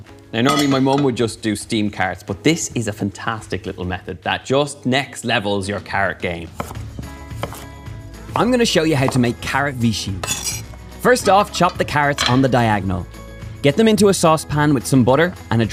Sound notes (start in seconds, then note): 6.5 knife chopping